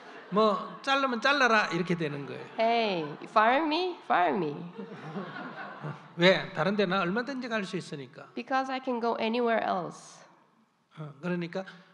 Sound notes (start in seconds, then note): 0.0 audience Laughter; 4.7 audience Laughter